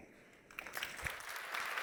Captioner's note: applause